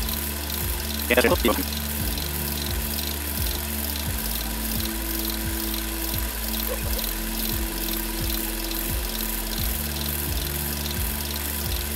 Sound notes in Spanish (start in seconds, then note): 2.4 Engine running